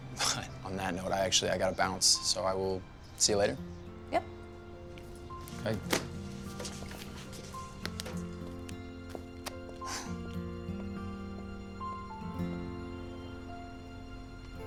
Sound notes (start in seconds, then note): 9.8 sighs; 12.2 soft music